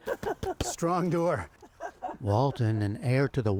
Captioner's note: laughter